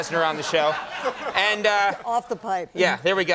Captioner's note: laughing